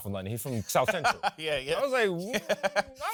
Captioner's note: laughs